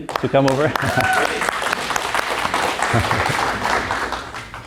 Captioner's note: applause